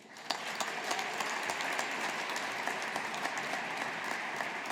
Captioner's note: audience applauding